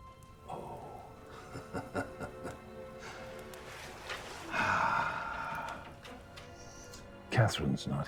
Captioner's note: laughing